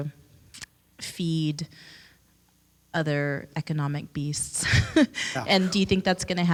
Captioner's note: chuckles